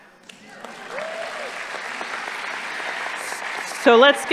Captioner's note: audience applauding